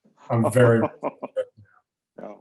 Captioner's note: voice cuts out